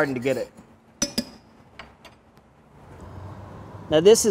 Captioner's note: spoon clacks